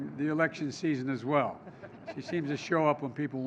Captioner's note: laughter